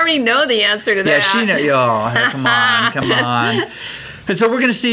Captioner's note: laughs